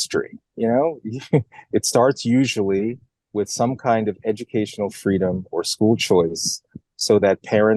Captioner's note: laugh